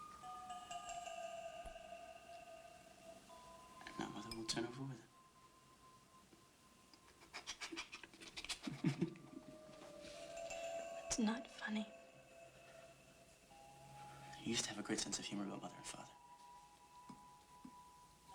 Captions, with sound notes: AND NOW MOTHER WILL TURN OVER WITH HIM. [ Chuckling ] IT'S NOT FUNNY. YOU USED TO HAVE A GREAT SENSE OF HUMOR ABOUT MOTHER AND FATHER.